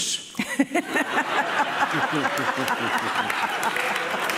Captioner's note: audience laughing